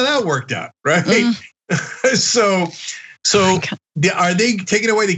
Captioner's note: laugh